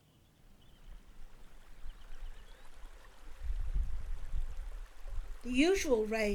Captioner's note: sound of river flowing